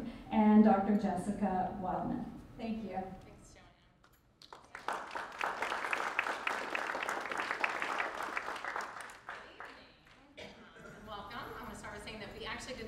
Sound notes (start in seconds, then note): 4.4 crowd applauding